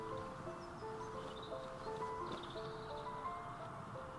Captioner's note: birds chirping